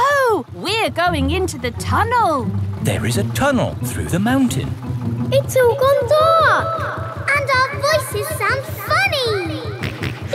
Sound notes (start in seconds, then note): 4.7 echoes; 10.1 kids laughing; 10.1 snorts